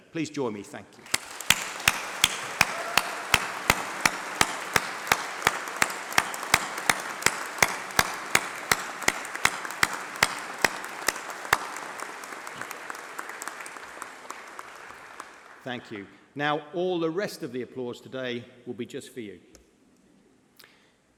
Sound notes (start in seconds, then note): 8.3 applause